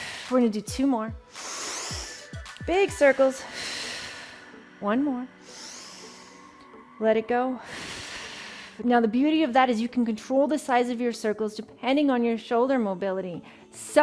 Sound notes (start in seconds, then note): 1.2 breathes deeply; 7.9 exhales